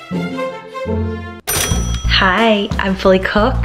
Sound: cash register dings

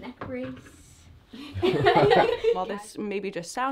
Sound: laughter

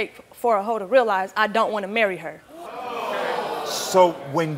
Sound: audience oohing

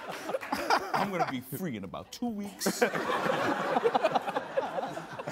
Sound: all laughing

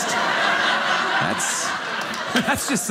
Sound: audience laughing

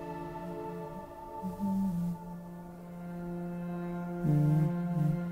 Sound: humming

